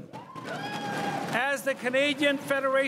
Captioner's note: crowd cheering and applauding